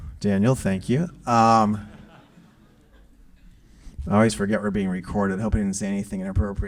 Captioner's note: laugh